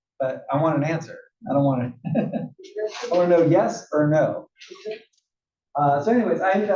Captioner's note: laugh